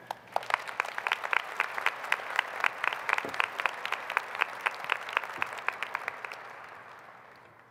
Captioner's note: applause